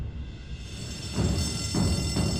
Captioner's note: bell ringing